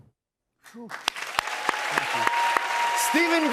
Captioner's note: cheers and applause